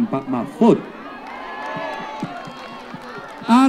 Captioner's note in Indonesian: tepuk tangan